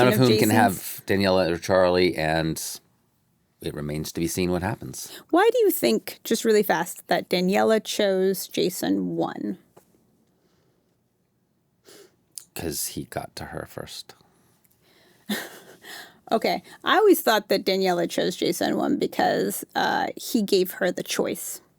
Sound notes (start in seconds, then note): 15.3 chuckles